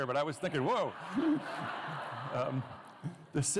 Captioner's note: laughter